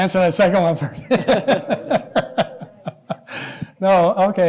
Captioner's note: laughter